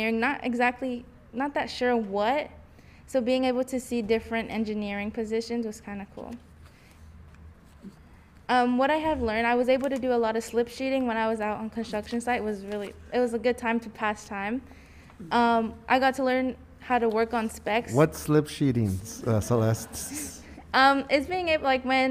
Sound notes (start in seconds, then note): 18.2 male Voice